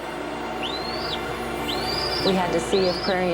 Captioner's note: eaglet peeping